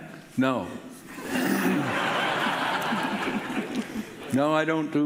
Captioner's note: audience laughing